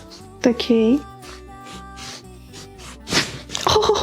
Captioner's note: crunches of bones